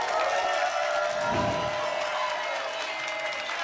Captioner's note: applause and cheering; whoosh; applause and cheering cont